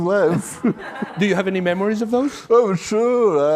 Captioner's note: laughs